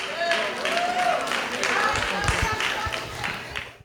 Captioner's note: audience applause